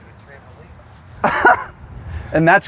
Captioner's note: laughs